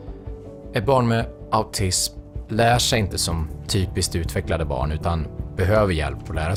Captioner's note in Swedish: Mansröst